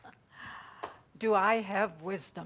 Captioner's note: chuckles